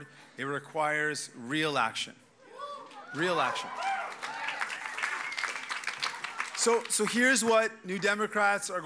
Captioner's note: cheers and applause